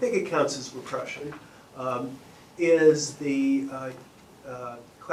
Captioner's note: none